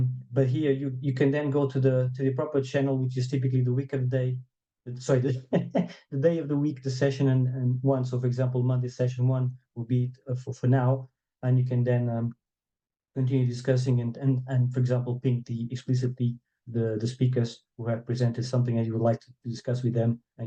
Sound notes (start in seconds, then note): 5.2 chuckles